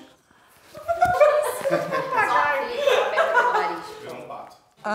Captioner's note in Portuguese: risadas